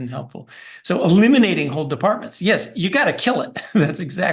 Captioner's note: laugh